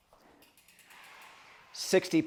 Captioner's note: bike clicking and sliding